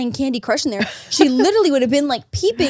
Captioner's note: laughs